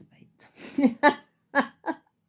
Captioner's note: laughter